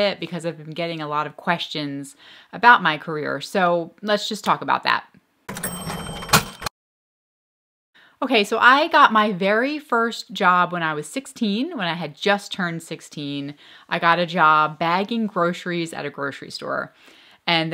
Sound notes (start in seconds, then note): 5.5 cash register clicking